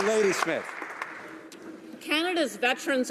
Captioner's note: applause